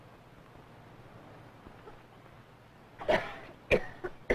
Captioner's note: coughs